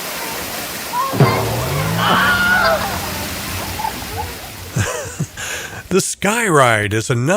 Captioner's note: laughs